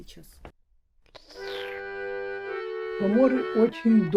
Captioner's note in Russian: прихлебывает чай